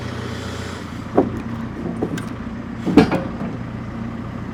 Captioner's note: wood thumps